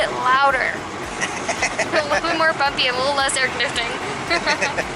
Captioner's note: laughter; laughter